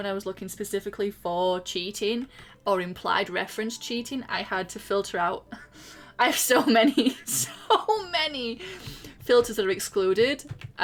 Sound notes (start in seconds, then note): 5.9 laughing